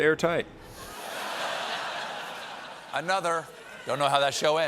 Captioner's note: laughter